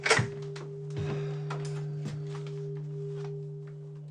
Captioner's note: sighs